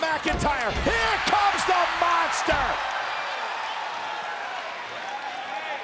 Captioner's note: audience cheers